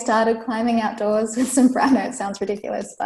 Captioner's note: laughs